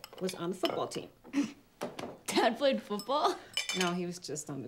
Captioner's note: chuckles